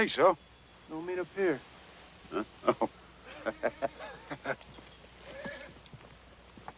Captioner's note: laughs